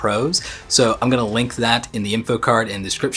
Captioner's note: chuckles